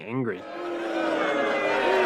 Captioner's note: crowd booing